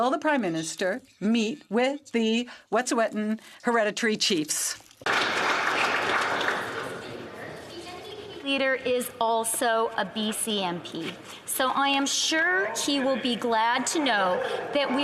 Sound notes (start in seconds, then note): 8.2 some Applause